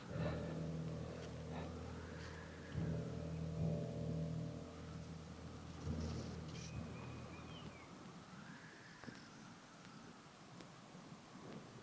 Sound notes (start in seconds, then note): 7.7 birds chirping